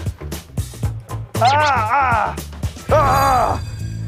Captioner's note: Mengerang